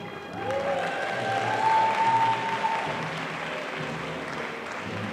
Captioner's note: audience applauding